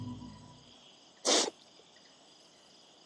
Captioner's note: sniffles